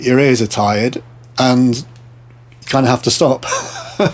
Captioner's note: laughing